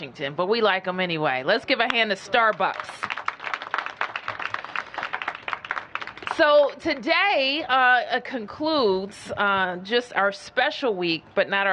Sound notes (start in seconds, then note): 2.3 applause